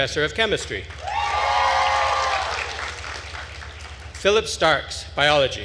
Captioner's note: attendees cheering and applauding